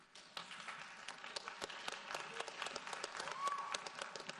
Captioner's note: audience applauds